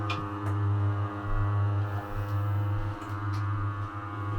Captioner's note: machine buzzing